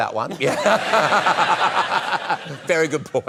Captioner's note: laughter